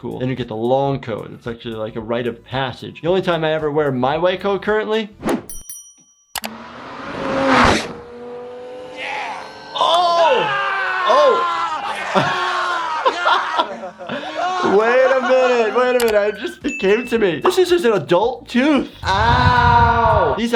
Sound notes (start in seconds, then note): 5.4 bell dings; 6.4 car engine roaring; 12.0 man groans